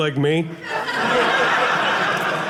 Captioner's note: audience laughing